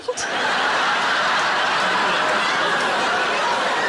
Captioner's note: audience laughs